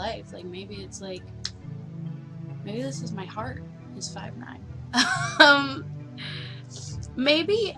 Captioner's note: laughs